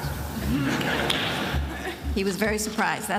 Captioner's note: attendees laughing